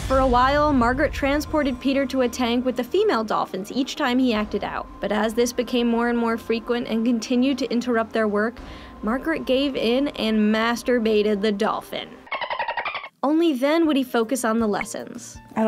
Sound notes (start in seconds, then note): 12.2 dolphin squeals